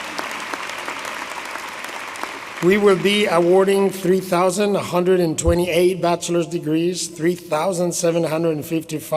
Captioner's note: applause